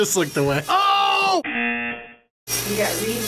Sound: buzzer rings

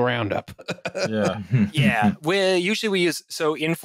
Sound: laughter

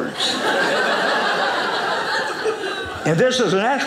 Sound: audience laughing

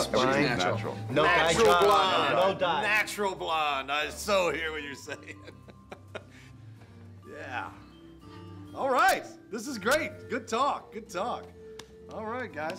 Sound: laughs

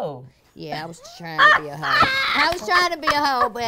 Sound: laughs

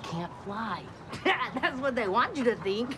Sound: laughs

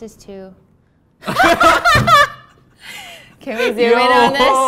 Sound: laughing

